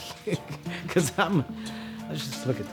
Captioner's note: laughs